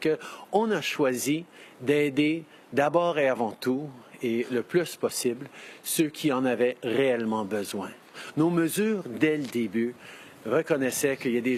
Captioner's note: speaking French